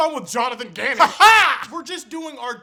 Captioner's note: weird laughter